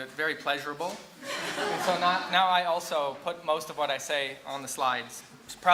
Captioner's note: laughter